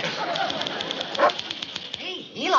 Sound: dog barks

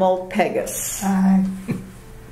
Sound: laugh

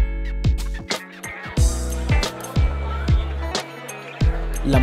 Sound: people talking

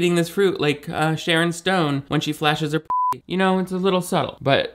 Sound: beep

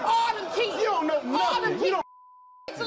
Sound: beep

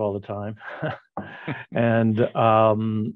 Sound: both chuckle

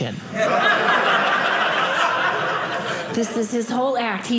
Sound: audience laughing

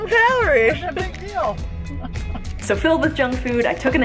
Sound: laughs

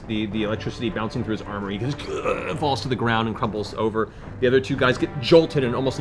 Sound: moan

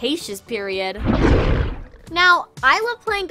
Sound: roaring

